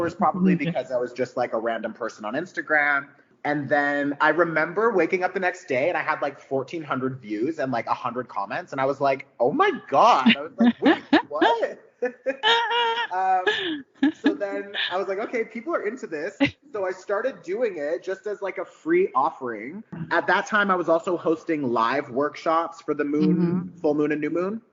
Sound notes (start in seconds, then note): 12.0 laughing